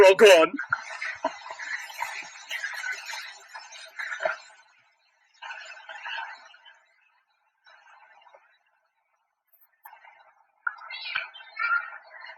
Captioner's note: silence